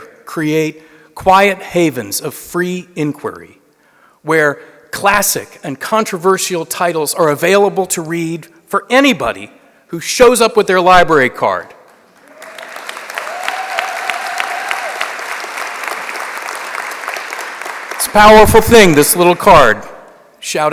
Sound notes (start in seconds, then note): 11.8 applause